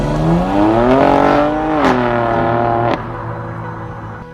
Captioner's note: engine roaring